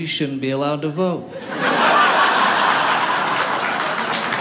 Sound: audience laughing; audience applauding

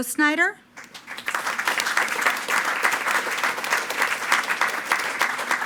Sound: attendees clapping

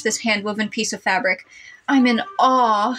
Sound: none

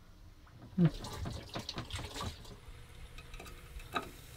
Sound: water running

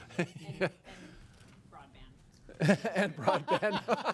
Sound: laughing

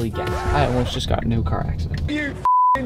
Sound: beep

